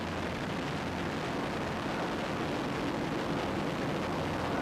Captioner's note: planes roaring